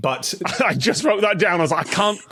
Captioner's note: laughs